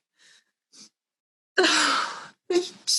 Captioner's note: frustrated sigh